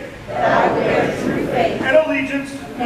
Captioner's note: crowd